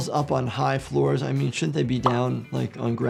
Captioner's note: graphics popping